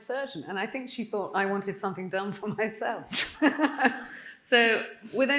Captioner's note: laughing